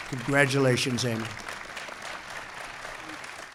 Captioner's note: applause